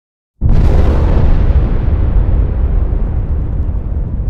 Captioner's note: bomb exploding